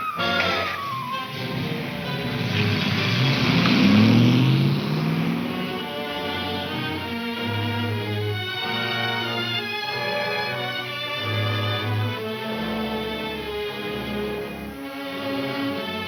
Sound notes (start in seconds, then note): 4.5 engine revving softly